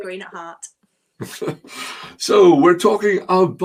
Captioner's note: chuckling